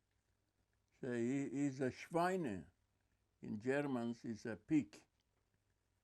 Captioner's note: german